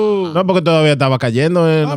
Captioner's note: speaking In Foreign Language